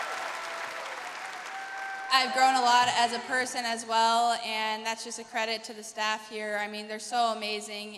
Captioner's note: cheers and applause